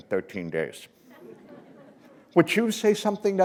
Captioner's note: laughter